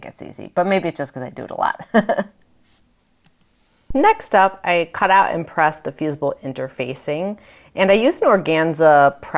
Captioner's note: laughs